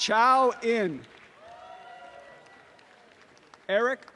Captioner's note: applause and cheering